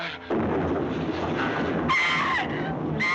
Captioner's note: thunderclap; screaming